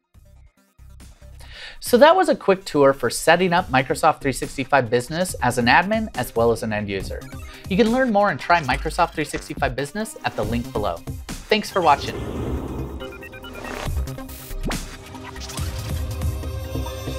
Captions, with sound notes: So that was a quick tour for setting up Microsoft 365 Business as an admin as well as an end user. You can learn more and try Microsoft 365 Business at the link below. Thanks for watching. (robotic noises) (fading music)